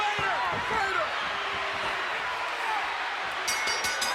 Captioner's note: applause